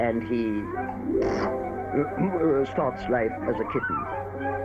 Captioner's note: clears throat